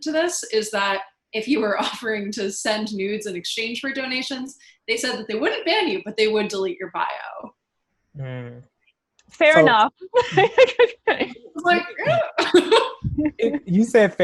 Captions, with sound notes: if you were offering to send nudes in exchange for donations, they said that they wouldn't ban you, -but they would delete your bio. -Hmm. -So... -Fair enough. (laughs) It's like, eh...? (chuckles) Y-You said "fair enough," and I think